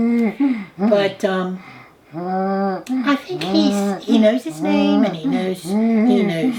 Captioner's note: humming